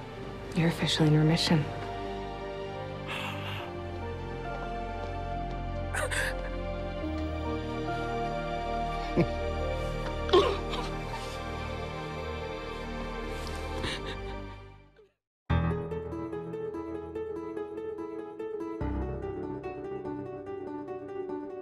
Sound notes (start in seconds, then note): 3.0 exhales; 5.9 crying; 9.0 chuckles